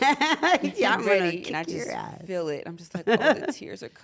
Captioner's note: laugh; laugh